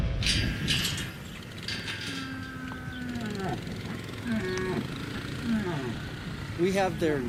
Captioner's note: gates clanging; bull bellowing